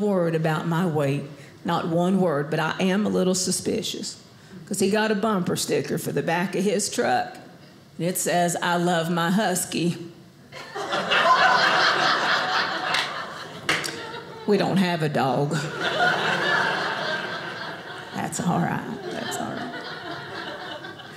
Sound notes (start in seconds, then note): 10.6 audience laughing